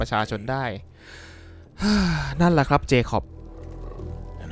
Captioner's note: sigh